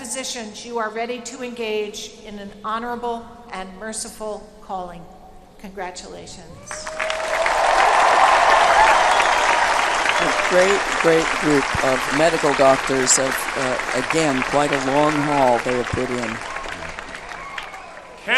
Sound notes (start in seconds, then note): 6.3 applause